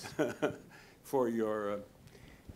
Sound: laughing

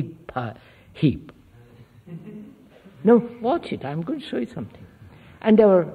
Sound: laughter

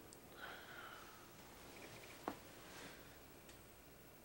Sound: Billy sighing

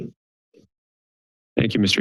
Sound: silence

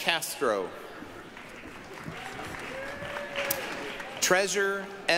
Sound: applause, cheering

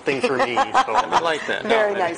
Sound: laughter

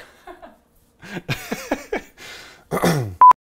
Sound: laughter

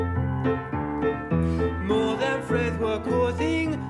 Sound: lisping

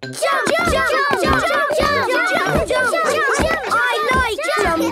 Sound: all shouting "Jump! Jump!"

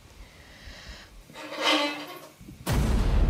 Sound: bow squeaks; anxiety-inducing music

